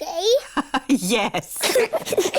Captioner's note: both giggle; laughs